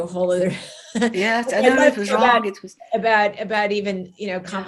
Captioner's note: chuckles